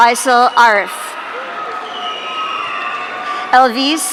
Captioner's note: audience cheering